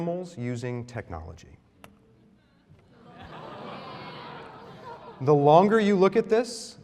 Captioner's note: laughter